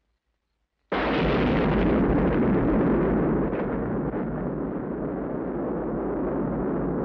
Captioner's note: dynamite booms; gun bangs